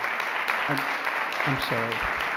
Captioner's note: applause